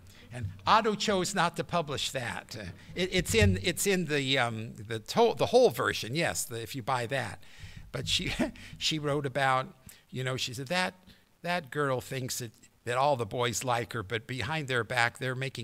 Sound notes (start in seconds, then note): 8.3 laughter